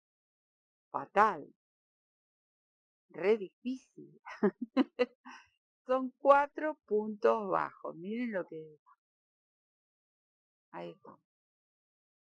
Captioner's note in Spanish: risas